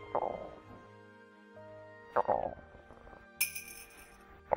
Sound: growl

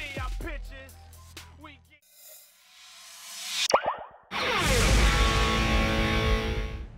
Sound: rapping; ping; whooshing sound

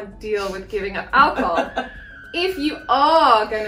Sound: laughs

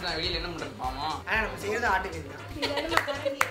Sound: joking in Tamil; claps and laughs

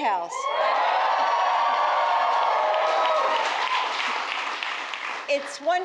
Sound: applause

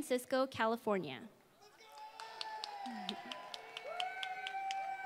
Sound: applause

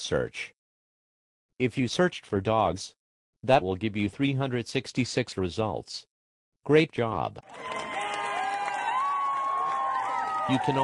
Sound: applause

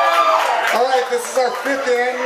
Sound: crowd

